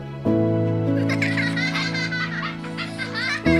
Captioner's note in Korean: 아이들의 웃음소리